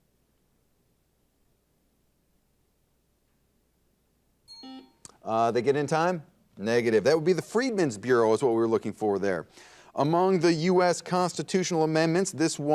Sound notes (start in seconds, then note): 4.5 bell ring; 4.5 buzzer dings